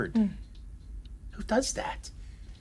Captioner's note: Ava sighs